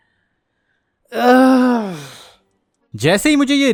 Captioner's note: cry of anguish